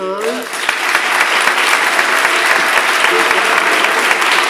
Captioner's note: audience applauds